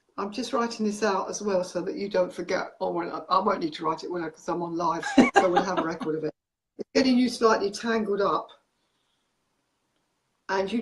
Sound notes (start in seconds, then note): 5.0 laughs